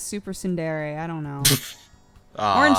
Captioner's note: titters; cry